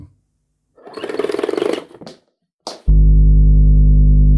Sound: logo rattles

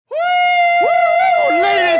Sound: scream

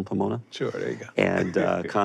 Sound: chuckles

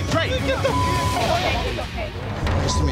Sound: beep

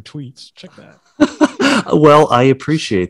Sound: laughing

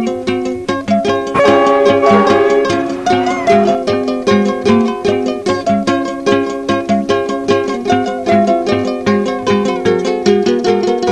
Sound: goods train horn sounds, music track resumes, finishes

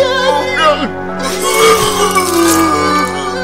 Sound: vomiting

